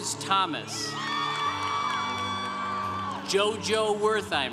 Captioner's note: congregation cheering